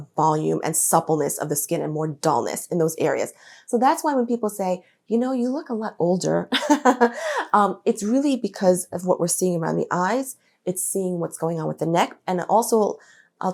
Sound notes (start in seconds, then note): 5.0 she laughs